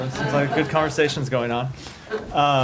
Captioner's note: laughter